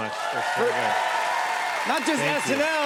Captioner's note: cheers and applause